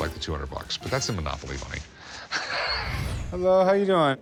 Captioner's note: laughs